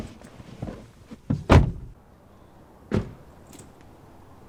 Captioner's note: car doors closing